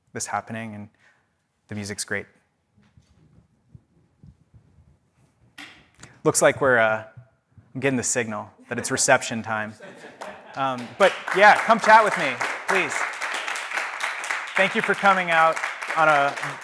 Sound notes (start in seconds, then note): 13.1 audience applauds